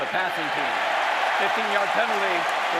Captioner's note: cheering